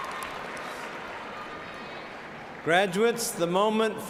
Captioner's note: cheers and applause